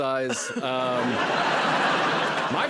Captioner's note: laughter